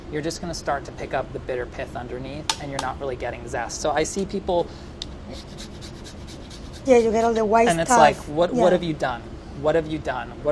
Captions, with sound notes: you're just gonna start to pick up the bitter pith underneath and you're not really getting zest. So I see people... [lime scraping] - Yeah, you get all the white stuff. - And it's like what have you done. What have you done.